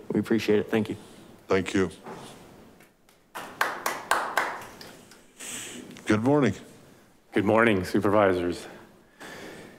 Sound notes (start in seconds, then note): 3.3 light applause